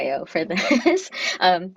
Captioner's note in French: rires